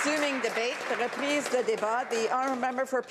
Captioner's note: applause